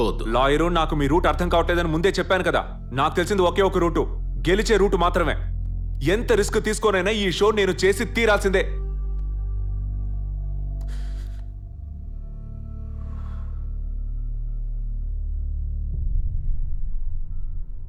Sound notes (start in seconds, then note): none